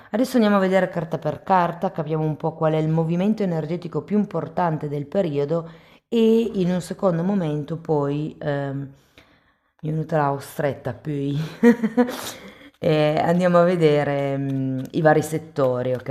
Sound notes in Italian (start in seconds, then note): 11.4 risate